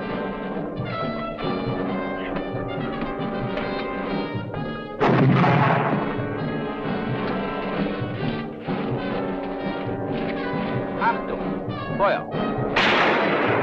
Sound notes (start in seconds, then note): 5.0 explosion booming; 11.1 speaking in a foreign language